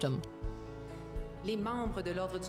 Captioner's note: speaking French